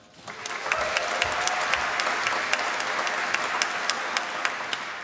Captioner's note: applause